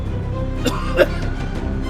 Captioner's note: cough cough